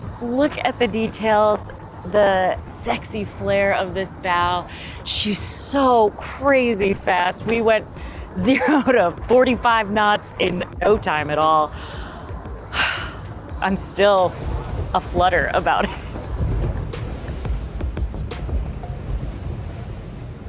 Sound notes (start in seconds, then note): 17.2 water rustling